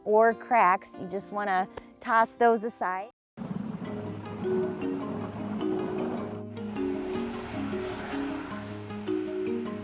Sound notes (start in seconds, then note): 3.4 engine whirring; 3.4 gentle music